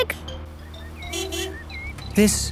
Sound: honking

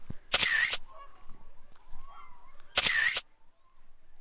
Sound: camera shutter clicking

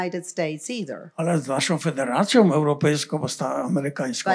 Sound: foreign language

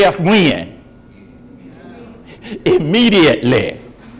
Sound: crowd

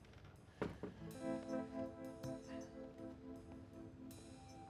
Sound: door tapping; jazz music continues

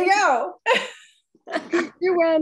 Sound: laughing

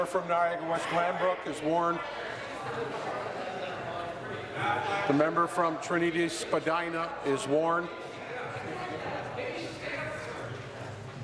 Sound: conversation din

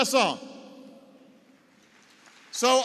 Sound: applause

